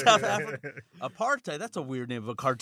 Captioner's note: laughter